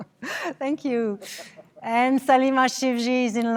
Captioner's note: laughter